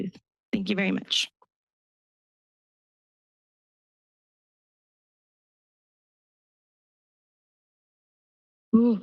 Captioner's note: silence